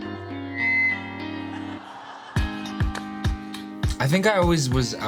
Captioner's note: feedback squeaking; audience laughing